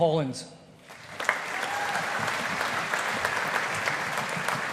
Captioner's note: audience applauding